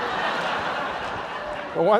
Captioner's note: laughter